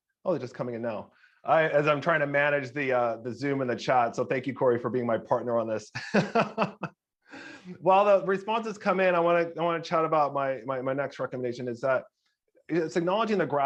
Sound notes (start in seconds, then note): 6.0 laughing